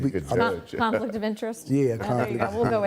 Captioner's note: laughing